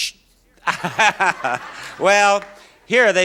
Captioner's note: Bob laughs